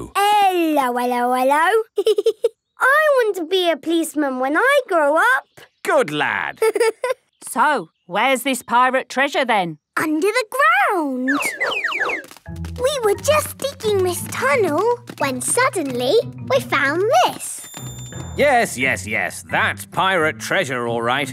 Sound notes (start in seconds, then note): 6.6 giggling